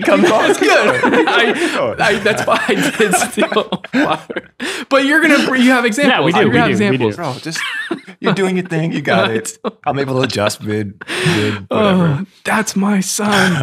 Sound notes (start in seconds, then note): 0.0 friars laughing